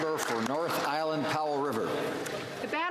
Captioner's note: some Applause